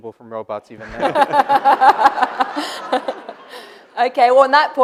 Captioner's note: laughter